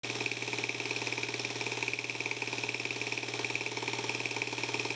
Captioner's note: film reel whirring